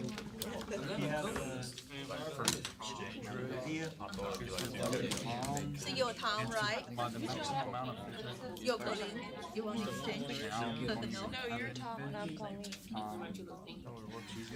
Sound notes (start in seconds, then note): 3.2 students murmur